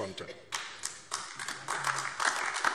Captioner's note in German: Beifall AfD